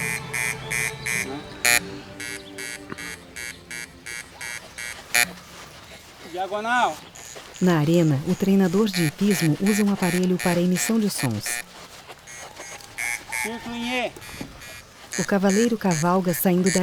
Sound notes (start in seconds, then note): 3.2 bell